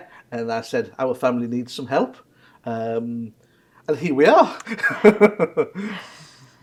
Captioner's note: laughs